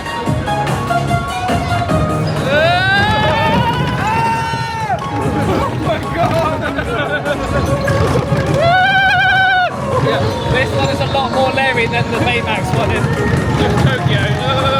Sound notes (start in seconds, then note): 2.4 yelling; 6.3 laughing; 8.4 yells